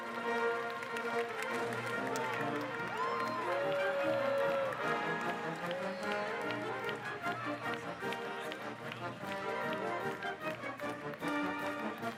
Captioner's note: applause